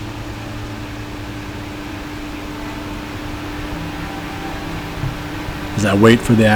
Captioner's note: sound of light rain falling